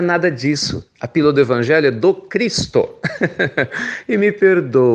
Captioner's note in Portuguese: risos